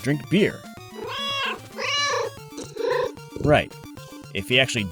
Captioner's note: meow, meow!